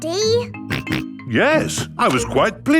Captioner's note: snorts